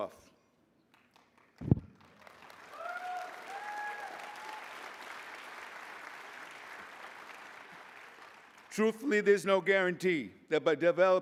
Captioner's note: applause